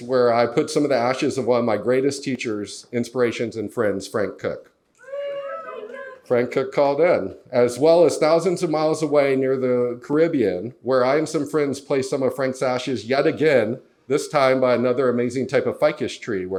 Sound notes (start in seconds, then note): 5.0 audience cheers - Woo, Frank Cook!